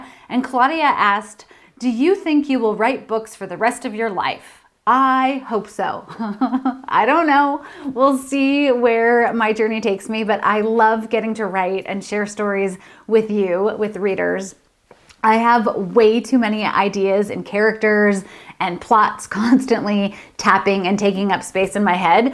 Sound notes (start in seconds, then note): 6.1 laughs